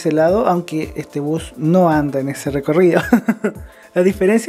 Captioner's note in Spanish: risas